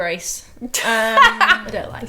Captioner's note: laughing